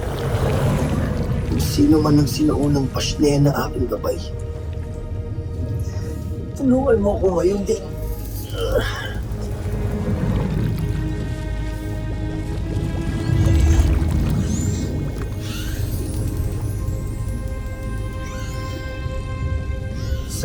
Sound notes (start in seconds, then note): 8.4 adamus groans; 9.0 water gurgling; 14.1 squeaks & squawks